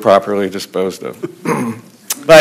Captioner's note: laughter